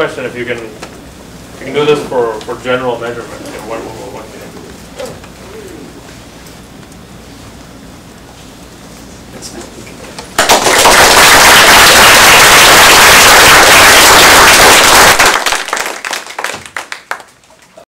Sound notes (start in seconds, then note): 13.7 applause